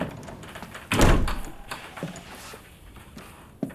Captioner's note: door creaking